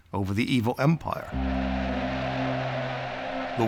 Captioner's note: cheering